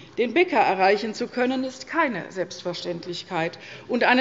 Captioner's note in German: none